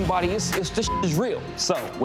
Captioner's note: beep